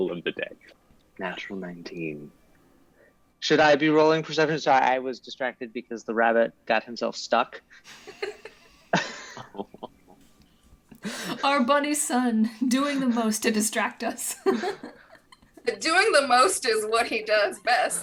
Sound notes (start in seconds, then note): 7.9 cast laughs; 14.3 giggles